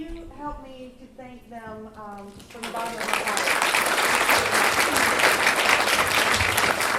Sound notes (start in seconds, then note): 2.4 applause